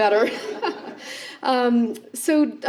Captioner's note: laughter